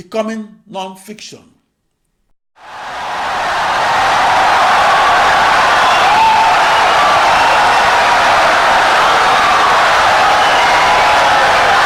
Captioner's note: wild applause and cheering for 17 seconds